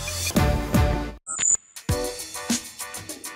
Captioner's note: high pitched beep; mellow hiphop music